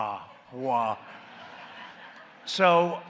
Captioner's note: laughter